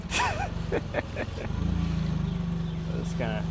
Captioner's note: laughing